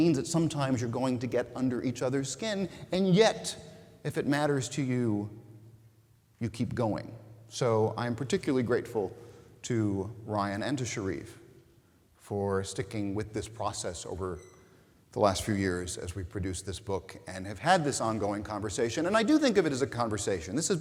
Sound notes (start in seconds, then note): none